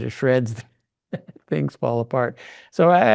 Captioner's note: laughing